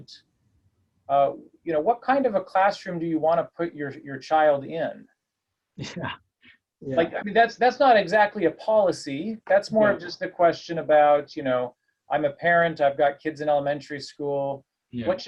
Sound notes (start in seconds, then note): 6.9 laugh